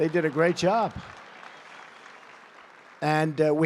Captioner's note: applause